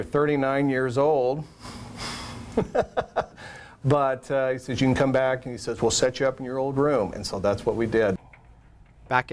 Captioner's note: laugh